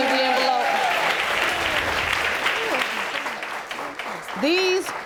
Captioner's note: audience applauding